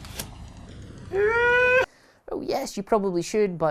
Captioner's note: gasp